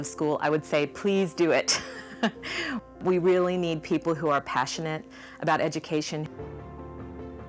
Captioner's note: laughs